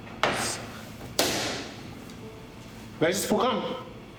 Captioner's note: clong